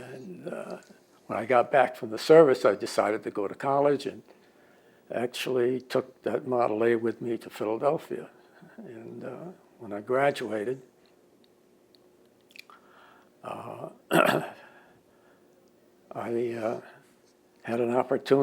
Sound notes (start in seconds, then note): 14.0 clears throat